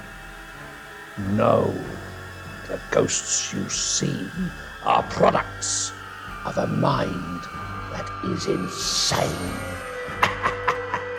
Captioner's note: cackles